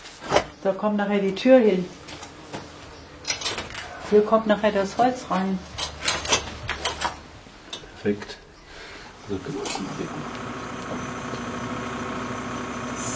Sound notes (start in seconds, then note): 6.4 clatter; 10.0 monotonous motor whirring